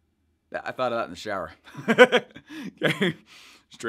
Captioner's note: laughing